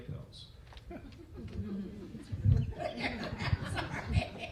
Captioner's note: laughter